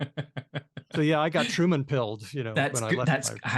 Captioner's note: laughs